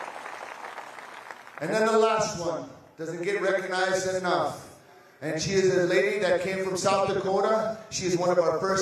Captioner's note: applause